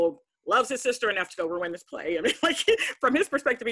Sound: laughs

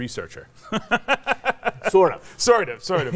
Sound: laughs

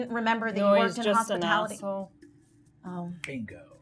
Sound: snaps

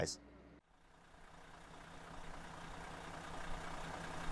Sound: engine rumbling

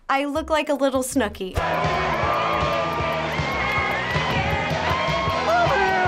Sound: cheering

